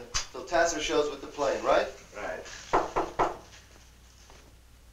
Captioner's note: knocking